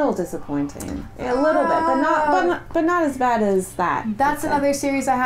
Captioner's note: groan